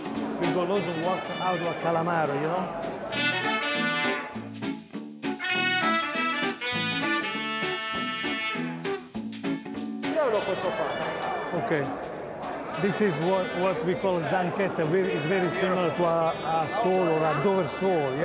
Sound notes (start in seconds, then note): 3.0 old timey jazz music; 10.2 speaking Italian